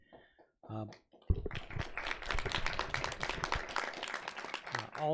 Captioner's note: audience applauds